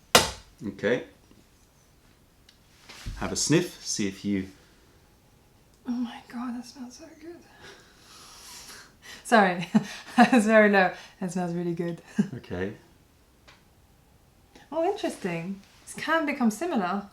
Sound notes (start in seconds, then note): 9.6 laughter